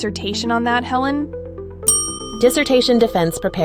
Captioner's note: ding!